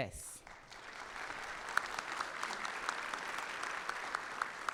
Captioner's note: audience clapping